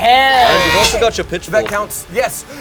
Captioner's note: demonic grunt